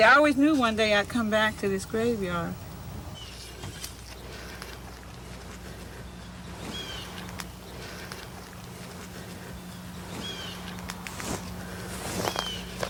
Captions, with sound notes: I always knew one day I'd come back to this graveyard. (bird squawking)